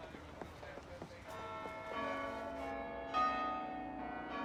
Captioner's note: bells tolling